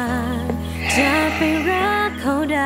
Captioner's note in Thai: เสียงถอนหายใจ